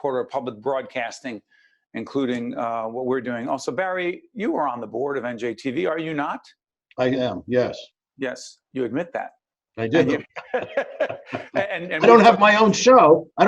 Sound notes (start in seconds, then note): 10.0 laughing